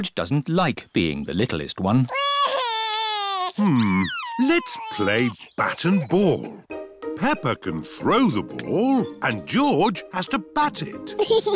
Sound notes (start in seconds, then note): 2.1 crying